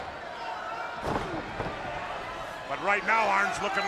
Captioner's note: Arn thuds